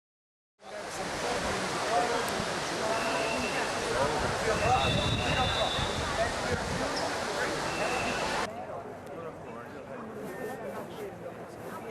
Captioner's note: crowd noise